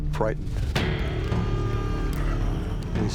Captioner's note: alarm blaring